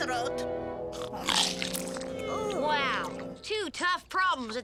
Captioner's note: chomps loudly; Lizbeth groaning